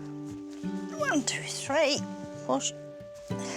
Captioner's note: grunts softly